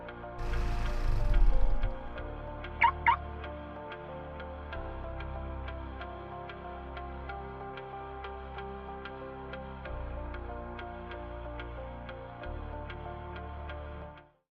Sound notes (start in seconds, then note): 0.1 soft music; 2.0 car engine; 2.8 alarm beeping